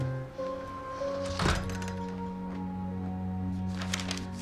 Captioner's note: door rattles; paper rustling